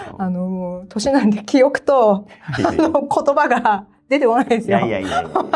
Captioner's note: laughs